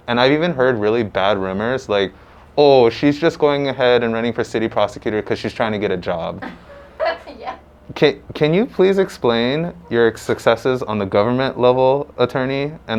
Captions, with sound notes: And I've even heard really bad rumors like, Oh, she's just going ahead and running for city prosecutor because she's trying to get a job. (laughing) Can you please explain your successes on the government level attorney?